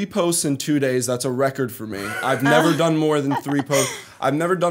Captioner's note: chuckle